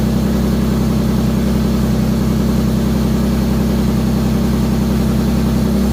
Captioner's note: engine running